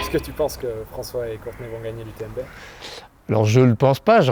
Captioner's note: laughs; muffled voice